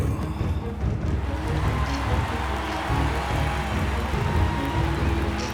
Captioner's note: cheering